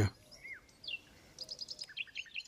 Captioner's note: bird sounds